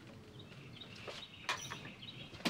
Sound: door creaking

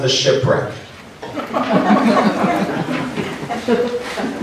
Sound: laughter

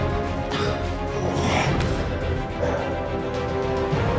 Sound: dramatic determined music continues; Scott groans; dramatic determined music continues

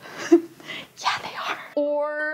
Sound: chuckles

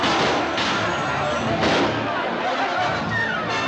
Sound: men shouting; gunshots continue

